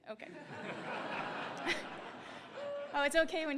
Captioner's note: laughter